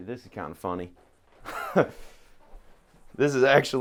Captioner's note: slightly laughing